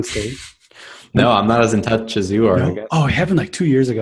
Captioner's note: laughs